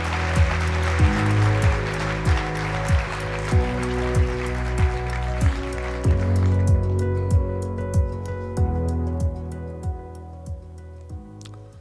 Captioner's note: applause